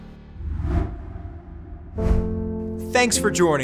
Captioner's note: air swooshes